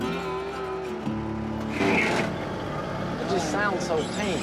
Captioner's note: grinding gears